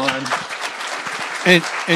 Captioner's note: applause